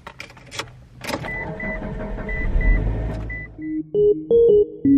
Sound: engine starts; intro music

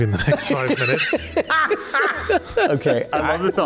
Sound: laughs

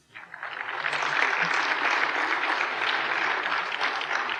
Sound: applause

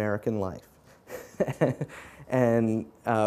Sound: laughing

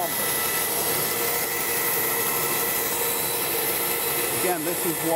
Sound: bandsaw whirring

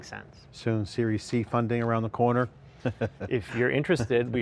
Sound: laughs

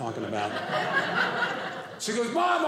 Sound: audience laughing

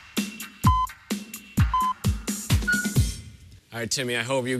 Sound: beeping countdown

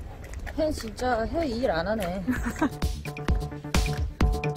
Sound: laughs

